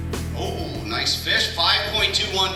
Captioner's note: voiceover